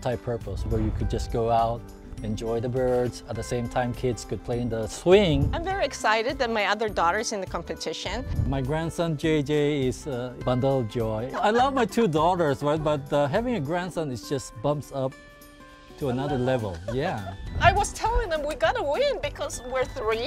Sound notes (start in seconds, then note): 11.3 laugh; 16.2 laughs